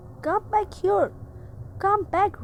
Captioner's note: in a hushed whisper